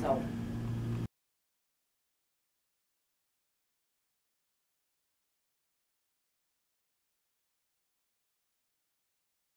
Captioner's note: silence